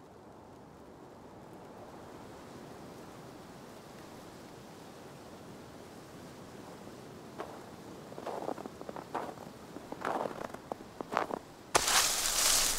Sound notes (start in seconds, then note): 7.4 gravel crunching